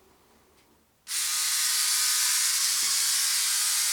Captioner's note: buzzing